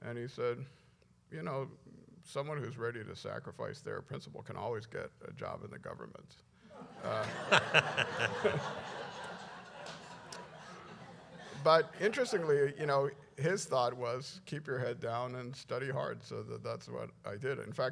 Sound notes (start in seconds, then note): 6.7 laughter